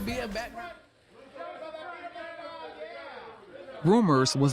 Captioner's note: photographers shouting